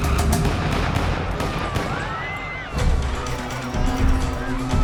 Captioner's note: screaming